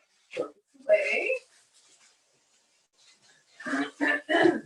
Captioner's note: coughs